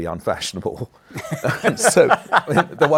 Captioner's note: laughter